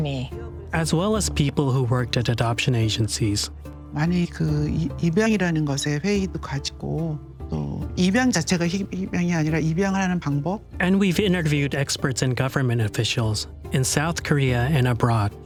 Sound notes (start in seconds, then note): 3.7 speaking Korean